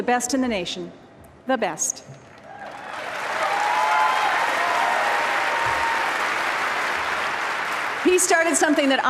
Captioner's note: applause